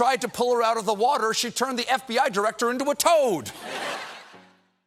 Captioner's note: laughter